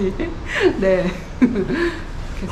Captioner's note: laughs